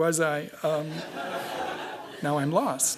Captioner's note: laughter